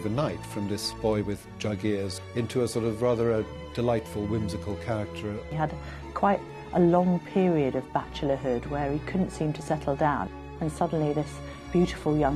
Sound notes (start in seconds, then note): 5.1 voiceover